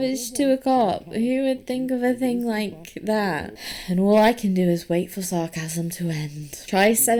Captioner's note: sighs